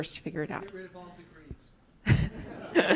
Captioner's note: speaking off microphone; laughs